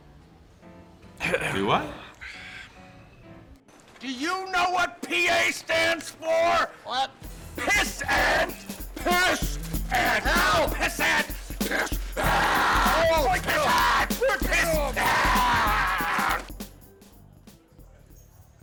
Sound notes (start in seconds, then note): 1.2 Jim's throat clears; 12.1 roars